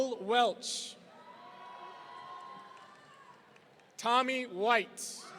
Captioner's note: audience cheering